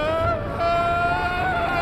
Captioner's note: screams